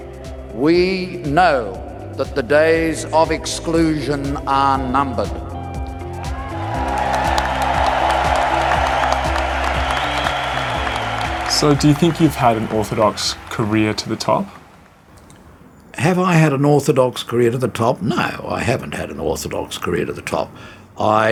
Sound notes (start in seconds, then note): 6.1 cheers